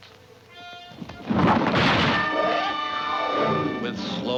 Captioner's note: trolley crashes